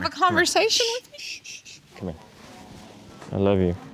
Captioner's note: shushing